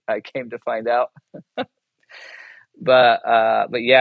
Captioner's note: chuckles